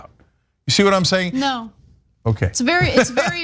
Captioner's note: laugh